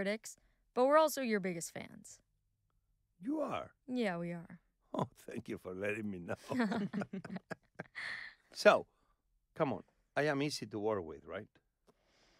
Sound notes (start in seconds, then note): 6.3 laughing